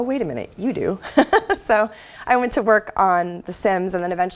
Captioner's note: laugh